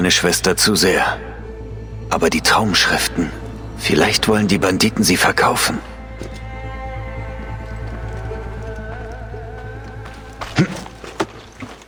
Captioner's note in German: räuspern